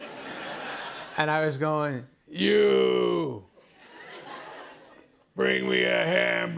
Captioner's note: laughter; laughter